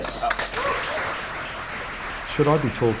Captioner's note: crowd clapping